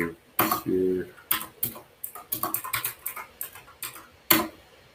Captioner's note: keyboard clacks